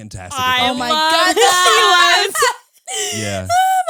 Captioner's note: all laughing